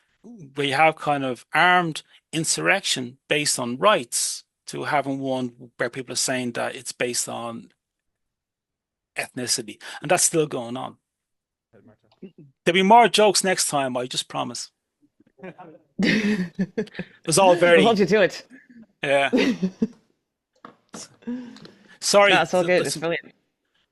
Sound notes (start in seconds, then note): 16.0 mods laugh